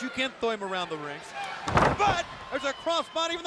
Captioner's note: wrestlers thudding